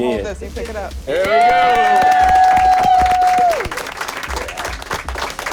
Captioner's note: cheering and applause